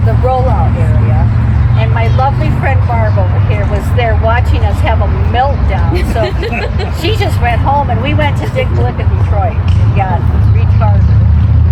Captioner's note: laughter